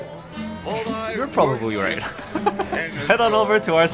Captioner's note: laughs